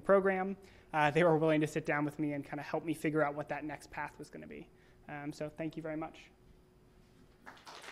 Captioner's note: applause